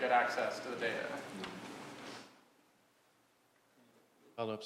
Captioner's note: laugh